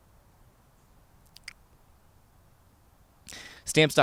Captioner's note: smacks lips